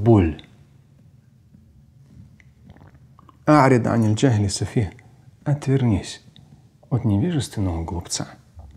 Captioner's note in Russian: Говорит на арабском